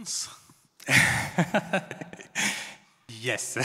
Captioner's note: laughs